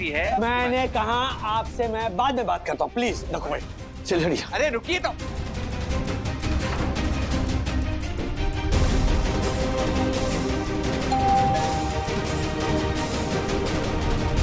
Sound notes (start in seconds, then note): 5.2 tense music; 11.1 doorbell rings